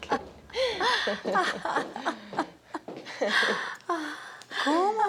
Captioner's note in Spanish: Risas